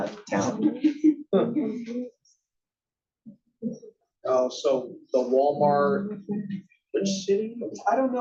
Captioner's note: laugh